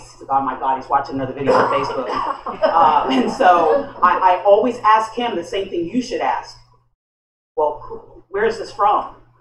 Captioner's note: laughter